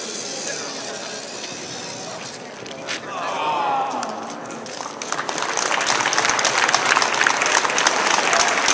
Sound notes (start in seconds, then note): 2.7 crowd; 4.7 applause